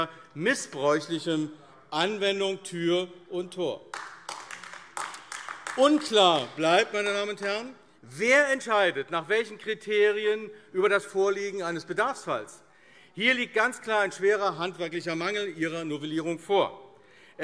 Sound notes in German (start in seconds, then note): 3.8 Beifall AfD